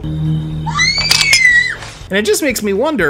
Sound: even more screaming

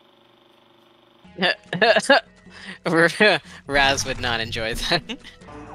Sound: laughing

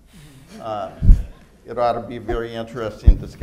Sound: laughter

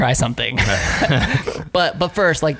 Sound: laughter

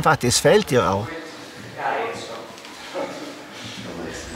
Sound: voices in the background

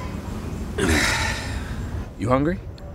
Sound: dad grunts

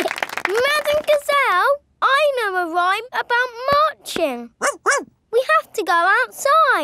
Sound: laughing and clapping; barks

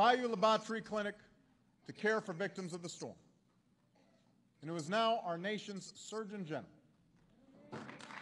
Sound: applause

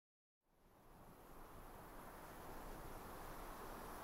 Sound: wind blowing

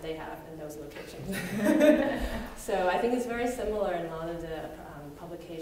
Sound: laughs

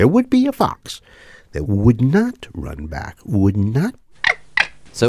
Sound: fox chirping sound

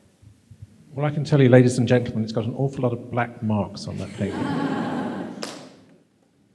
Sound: laughter

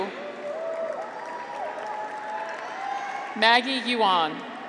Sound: graduates cheer

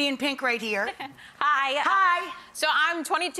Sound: laughs

